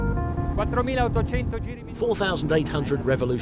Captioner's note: speaking foreign language